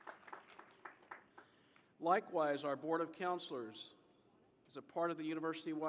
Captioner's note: applause